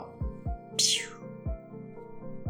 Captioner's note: 𝘴𝘰𝘧𝘵 𝘱𝘦𝘸